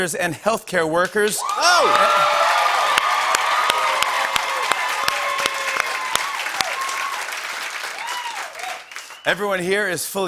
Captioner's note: cheers and applause